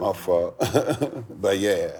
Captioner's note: chuckles